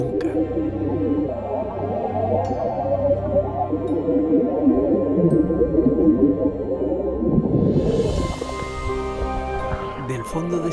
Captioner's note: sound of water